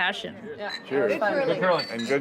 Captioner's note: clinking